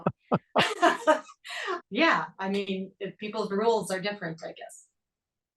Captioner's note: laugh